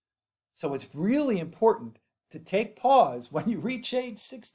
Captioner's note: chuckles